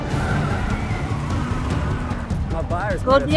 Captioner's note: tires screeching; tense drumbeat